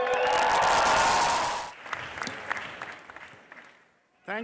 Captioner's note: crowd cheering